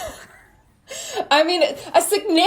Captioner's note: both laughing